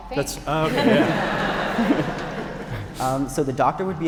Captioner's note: audience laughing